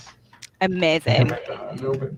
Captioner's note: claps